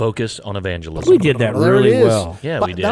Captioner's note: trilling